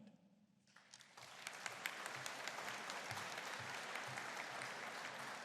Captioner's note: audience applauding